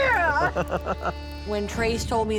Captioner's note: laughter